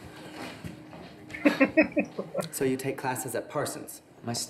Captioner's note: laughing